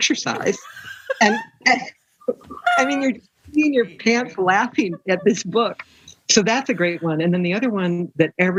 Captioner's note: laughter